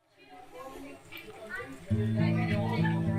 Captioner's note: people talking; gentle music